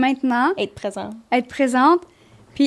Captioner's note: in french